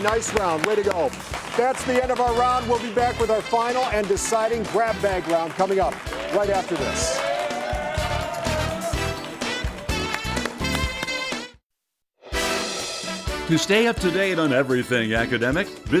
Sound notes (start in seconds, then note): 5.3 crowd cheering; 6.8 upbeat music fading